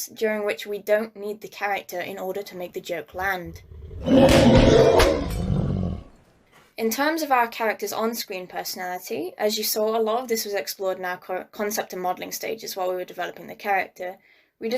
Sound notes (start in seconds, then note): 3.1 bear growling